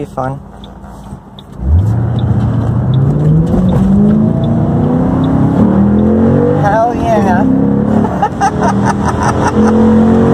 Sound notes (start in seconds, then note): 2.7 more V8 revving noises, more aggressively than before; 8.0 laughs